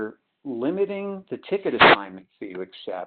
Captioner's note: sliding static